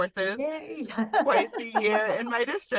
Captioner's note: laughs